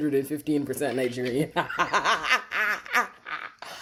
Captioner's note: laughs